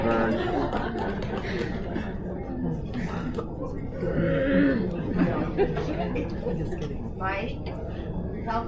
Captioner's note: indistinct Chatter